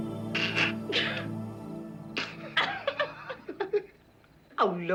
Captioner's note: both laughing